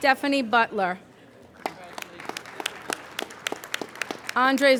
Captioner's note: applauding